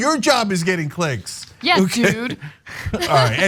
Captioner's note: laugh